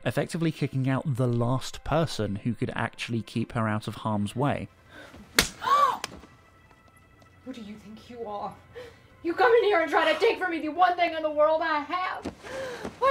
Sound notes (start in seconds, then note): 5.3 slap, followed by gasp